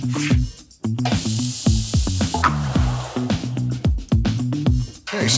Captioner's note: onions sizzling